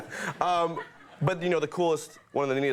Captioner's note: man laughs